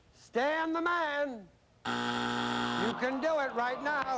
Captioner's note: buzzer